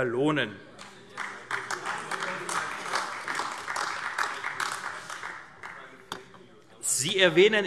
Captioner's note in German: Beifall AfD